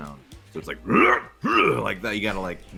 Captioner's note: grunts